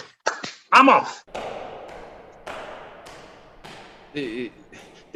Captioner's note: Footsteps as GUISE exits